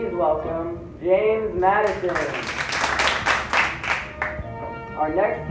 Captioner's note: applause